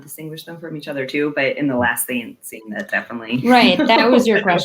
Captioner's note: laughs